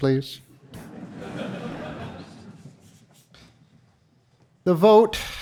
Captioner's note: audience laughing